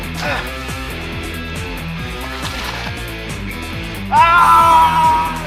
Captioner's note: grunting; battle cry; whipping